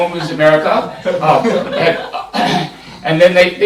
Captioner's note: laughter